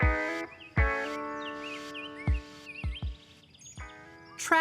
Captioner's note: birds chirping